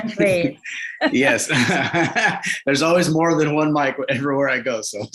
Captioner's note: laughs